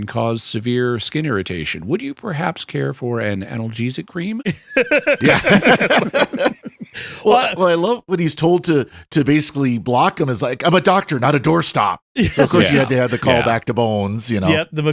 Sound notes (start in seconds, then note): 2.8 laughter